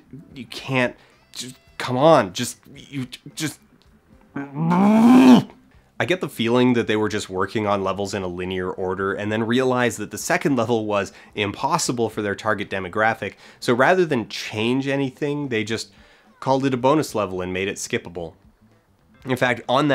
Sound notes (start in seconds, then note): 4.4 infuriated grumble